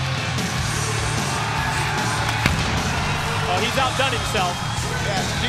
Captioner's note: crowd cheering